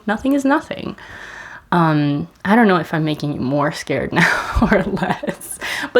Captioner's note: laughs